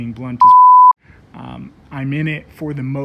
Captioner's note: beep